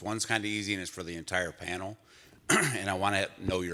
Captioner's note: coughs